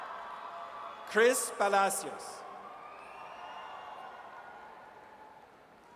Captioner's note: audience cheers